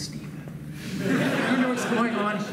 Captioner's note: laughs